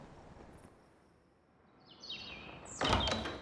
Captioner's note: door opens